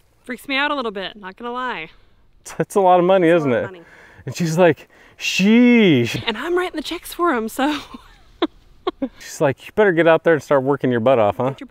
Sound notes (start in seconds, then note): 8.8 nervous giggle